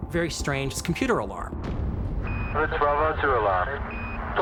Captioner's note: beeping